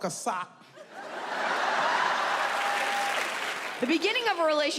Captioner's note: audience laughs